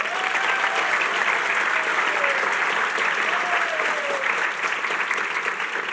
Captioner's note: applause